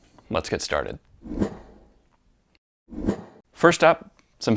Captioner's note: air whooshing